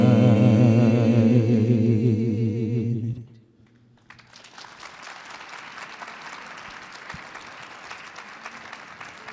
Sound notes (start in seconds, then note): 3.6 audience clapping